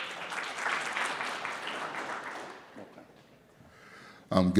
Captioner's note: audience clapping